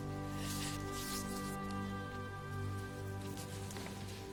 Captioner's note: sniffling